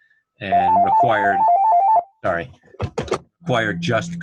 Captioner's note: phone ringing